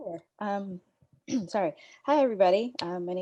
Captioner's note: throat clearing